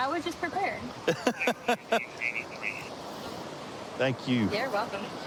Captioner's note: laughing